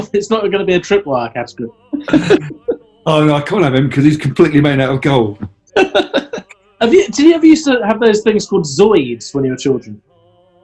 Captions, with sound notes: It's not gonna be a tripwire category. [LAUGHING] Oh no, I can't him, because he's completely made out of gold. [GIGGLING] Did you ever used to have those things called Zoids then you were childen?